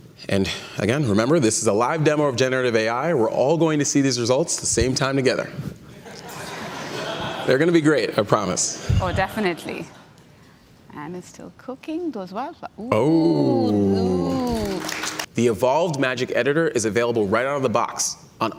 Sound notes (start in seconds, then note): 5.9 audience laughing; 14.3 audience clapping